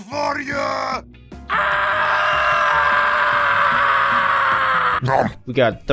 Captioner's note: tf2 screaming be